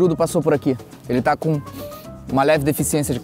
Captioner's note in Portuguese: som do cheirando